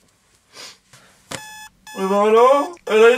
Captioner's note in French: alarme